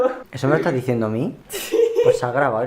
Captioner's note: laughs